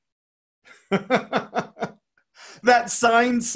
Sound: laughs

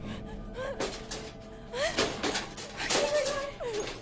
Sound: cage banging

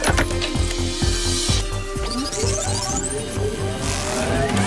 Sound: clicking; buzzing; whirring

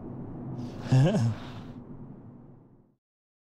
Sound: laughs

